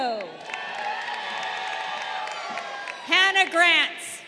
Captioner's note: crowd cheering